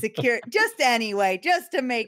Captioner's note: laughs